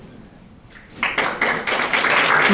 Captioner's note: audience applauding